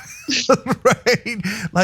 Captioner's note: laugh